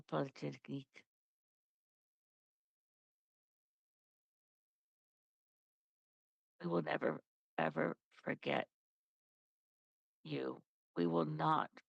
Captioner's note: speaking French